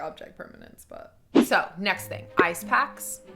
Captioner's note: air whooshing; playful, sneaky music